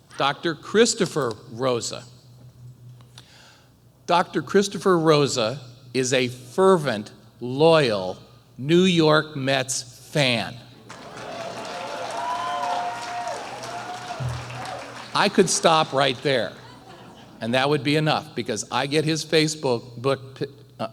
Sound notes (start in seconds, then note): 10.8 applause